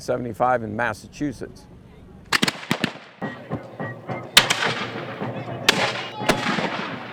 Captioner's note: weapon fire